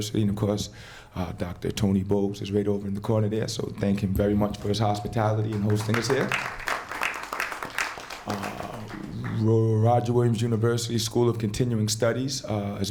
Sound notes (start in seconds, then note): 5.4 applause